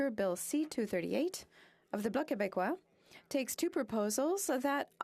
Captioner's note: speaking French